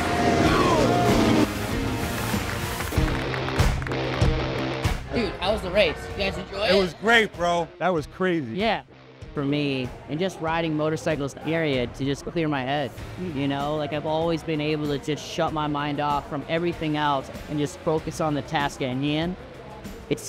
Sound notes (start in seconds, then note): 1.7 people clapping